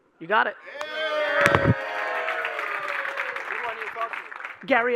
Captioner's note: audience applauding